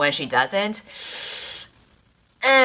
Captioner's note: 𝘴𝘩𝘢𝘳𝘱 𝘪𝘯𝘩𝘢𝘭𝘦